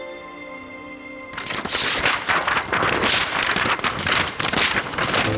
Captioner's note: paper whooshing